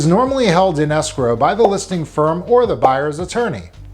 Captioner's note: graphic blipping